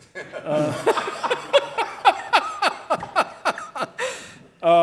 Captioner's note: audience laughing